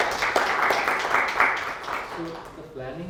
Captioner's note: applause